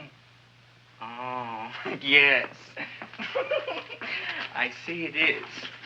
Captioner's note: chuckles